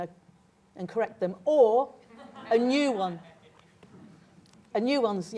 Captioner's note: laughter